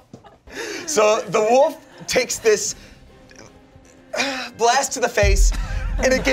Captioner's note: groans